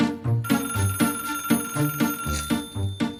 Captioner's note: phone rings